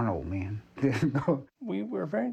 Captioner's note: chuckling